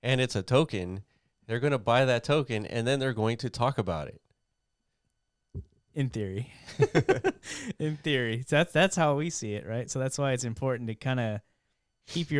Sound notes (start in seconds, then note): 6.7 laughs